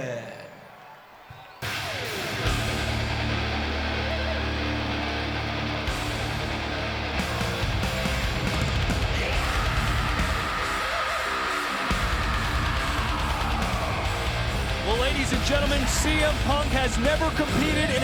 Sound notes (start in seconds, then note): 1.5 audience cheering; 2.4 upbeat rock music